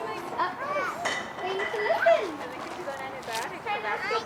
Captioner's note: indistinct chatter